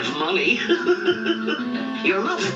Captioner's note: chuckling